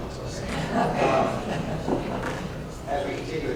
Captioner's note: laughter